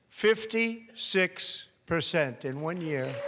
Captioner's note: applause